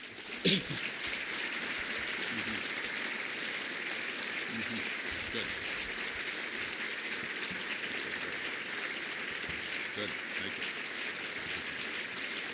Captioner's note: applause